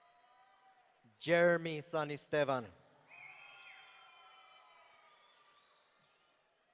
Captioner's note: audience cheering